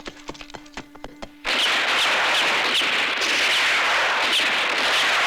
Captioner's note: gunfire